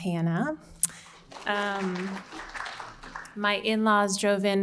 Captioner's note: audience applauding